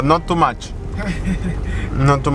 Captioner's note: laughs